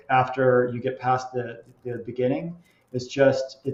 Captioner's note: none